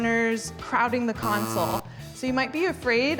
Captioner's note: buzzer buzzing